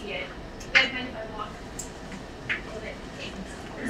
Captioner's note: speaking away from mic